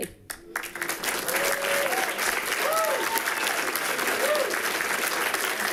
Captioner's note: people cheering and clapping